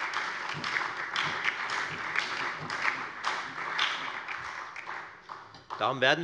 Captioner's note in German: Beifall bei der FDP, der SPD und der LINKEN